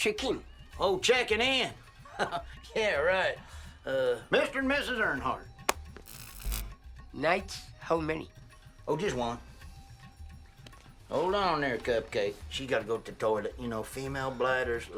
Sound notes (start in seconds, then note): none